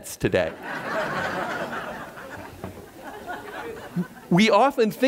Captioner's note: audience laughter